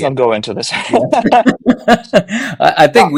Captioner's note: laughing